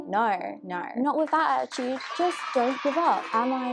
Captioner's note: children cheer